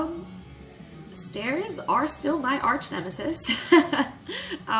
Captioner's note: laughs